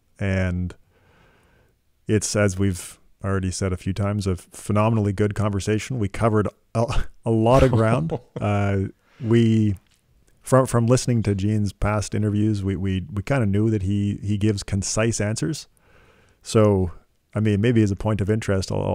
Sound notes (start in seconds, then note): 7.5 laughing